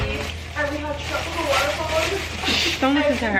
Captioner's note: continuing to yell